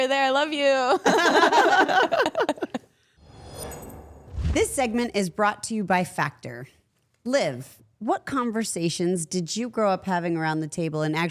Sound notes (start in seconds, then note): 0.9 all laughing; 3.2 logo whooshing